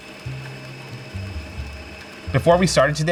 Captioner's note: mixers whir; jazz music resumes